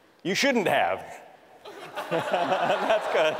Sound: laughter

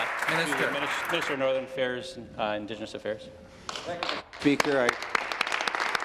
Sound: applause

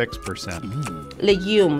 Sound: murmurs enjoyment

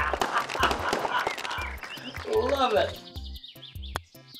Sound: chuckles happily

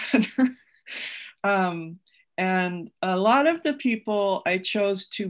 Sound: laughs

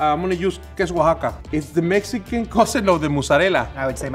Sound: speaks foreign language

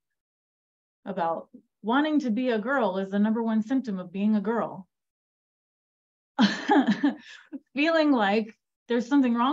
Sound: laughter

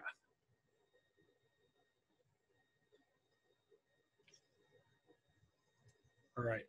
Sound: silence

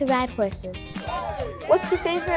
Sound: audience cheering

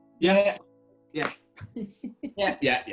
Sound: chuckling

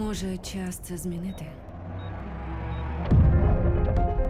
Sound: high-pitched beeping; dramatic piano music playing

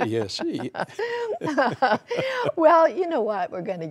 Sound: laughter

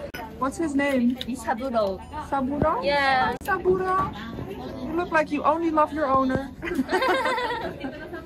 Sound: laughter

